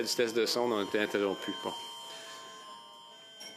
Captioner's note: speaking French